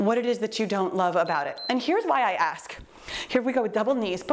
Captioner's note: timer beeps